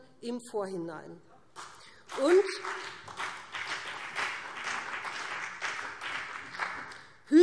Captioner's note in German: Beifall BÜNDNIS 90/DIE GRÜNEN, vereinzelt CDU und SPD